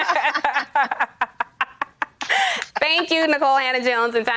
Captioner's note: laughter